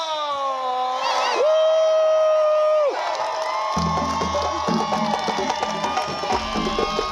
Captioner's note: drums beating; guests applauding